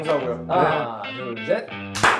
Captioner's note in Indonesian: clap